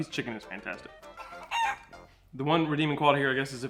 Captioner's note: chicken squawking